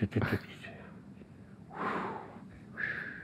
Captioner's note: whistling